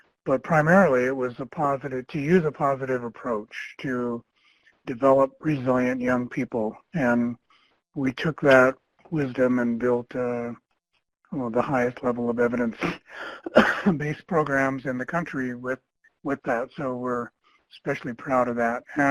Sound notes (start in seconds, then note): 12.7 coughs